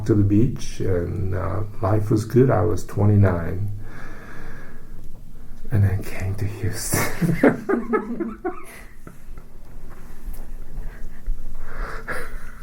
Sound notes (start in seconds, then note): 3.8 takes breath; 6.9 laughs